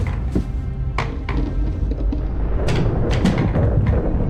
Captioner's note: Submarine and bubble sounds